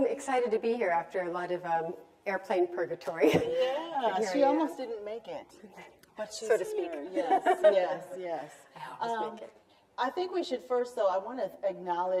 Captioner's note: chuckles